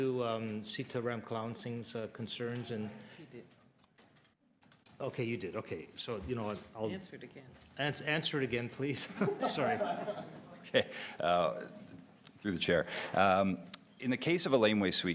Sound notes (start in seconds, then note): 9.0 laughter